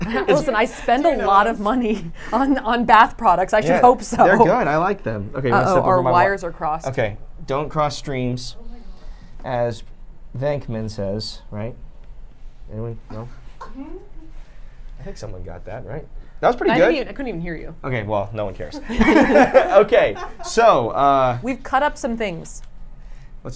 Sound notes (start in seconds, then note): 0.0 chuckles; 4.3 laughs; 18.8 laughs